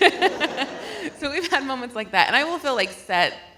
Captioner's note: laughs